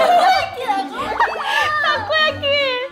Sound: burst out in laughter

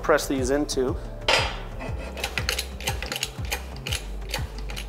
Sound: metal clangs

